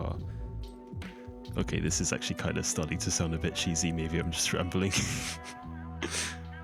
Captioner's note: laughs